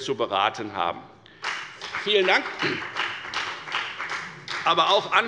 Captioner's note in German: Beifall bei der FDP